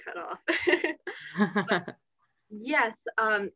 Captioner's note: laughter